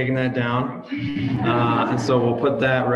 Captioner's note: audience laughs